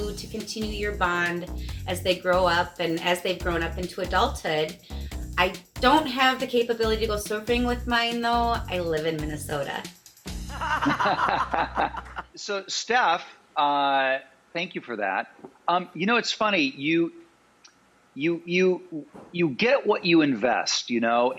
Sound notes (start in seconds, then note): 10.4 Rob and Rachael laugh